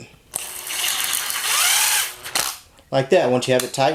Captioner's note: drill whizzes